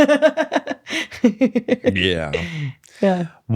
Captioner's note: laughs